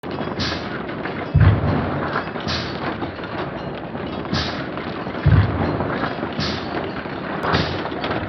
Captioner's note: slow-mo mechanical sounds from the Marble Machine X